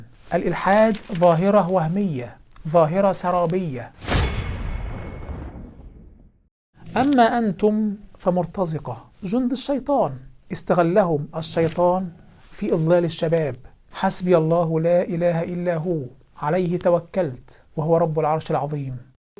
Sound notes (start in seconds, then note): 4.0 sound effect